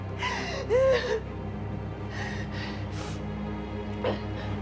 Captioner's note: dramatic music; Maggie moaning; dramatic music